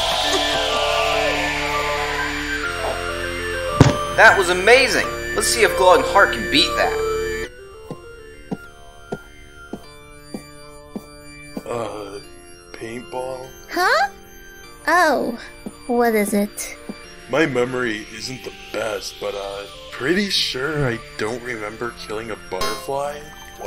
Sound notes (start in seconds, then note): 0.0 cheering; 0.2 chuckling; 3.7 bonk